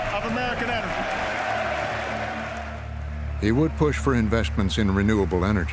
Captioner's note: audience applauds and cheers